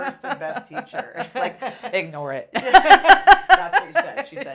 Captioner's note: laughing